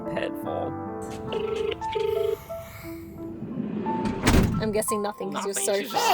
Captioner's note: phone ringing